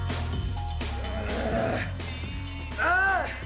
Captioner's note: fast-tempo electronica music; groaning